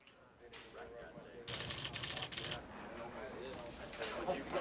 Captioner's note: men chatting